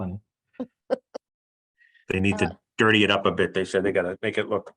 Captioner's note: laugh